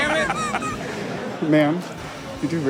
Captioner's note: Steelo laughs